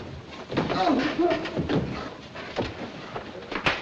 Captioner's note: groaning